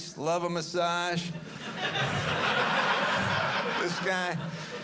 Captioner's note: audience laughing